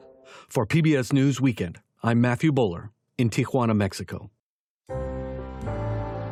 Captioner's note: voice-over